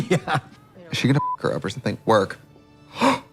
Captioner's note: beep